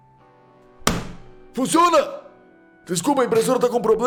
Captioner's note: slap